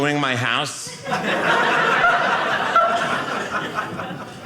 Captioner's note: audience laughing